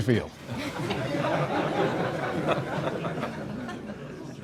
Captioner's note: group laughing